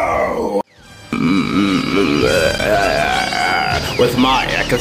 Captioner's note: evil laughter